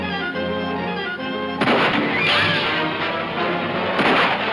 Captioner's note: guns banging